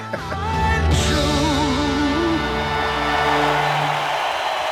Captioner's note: laugh